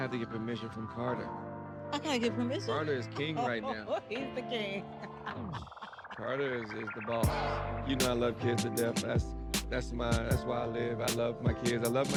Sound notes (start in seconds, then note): 5.9 laughing